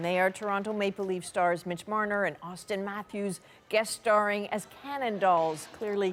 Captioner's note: applause